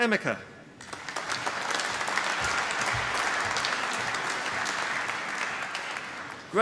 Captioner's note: applause